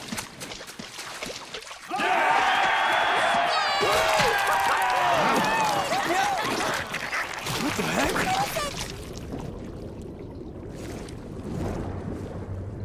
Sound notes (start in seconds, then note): 1.8 cheering